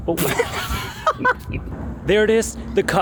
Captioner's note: laughter